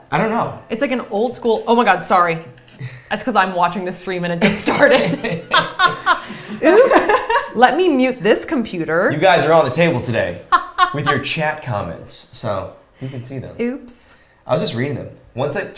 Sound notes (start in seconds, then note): 4.5 both laughing